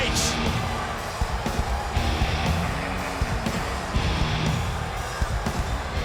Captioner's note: crowd boos; rock music plays